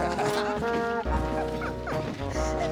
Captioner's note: laughing